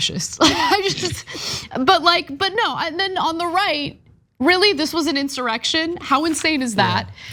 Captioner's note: laugh